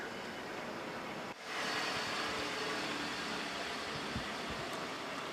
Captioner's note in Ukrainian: Звуки двигуна